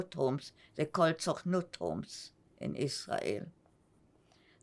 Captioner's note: hebrew; hebrew